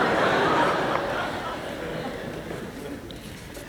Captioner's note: laughter